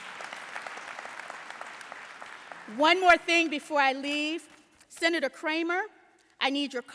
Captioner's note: applause